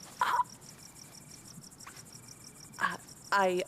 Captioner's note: crickets chirping continues; Ava whimpers